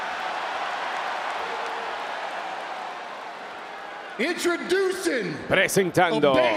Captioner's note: applause